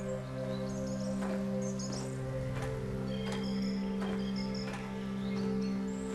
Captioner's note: footsteps